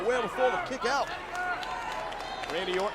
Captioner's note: crowd cheering